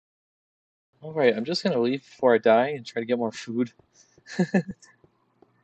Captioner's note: laughs